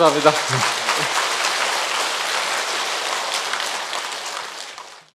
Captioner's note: audience applause